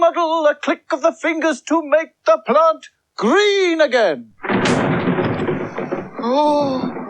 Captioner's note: sound Of Thunder